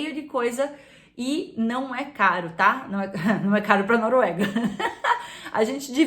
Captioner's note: laughs